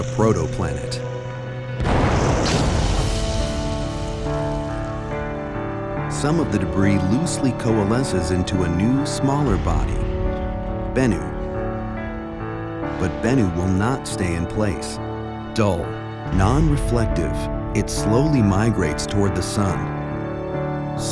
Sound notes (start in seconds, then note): 1.8 loud explosion